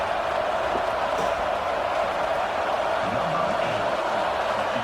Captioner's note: crowd Noises